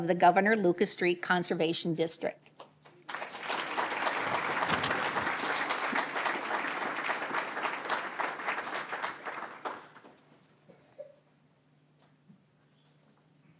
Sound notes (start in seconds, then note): 2.8 applause